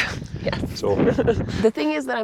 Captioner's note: laughs